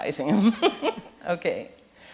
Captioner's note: laughing